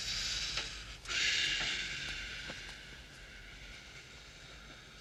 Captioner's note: imitates breeze blowing